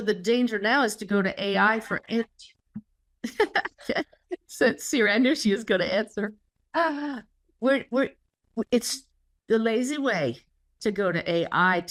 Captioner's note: laugh